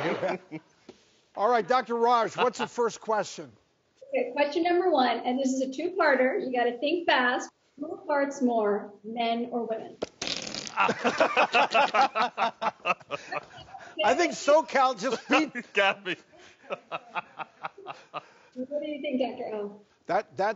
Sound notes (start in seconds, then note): 10.0 whoopee cushion farting; 10.7 laughing